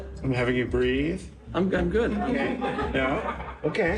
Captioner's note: laughter